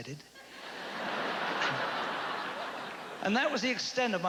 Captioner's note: laughter